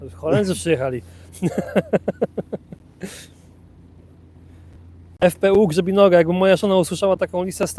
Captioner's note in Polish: śmiech